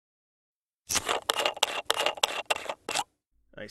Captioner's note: cap twists